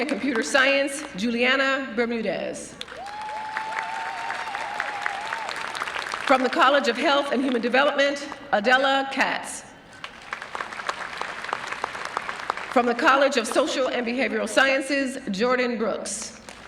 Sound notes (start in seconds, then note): 5.1 cheering and applause